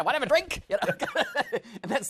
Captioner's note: laughs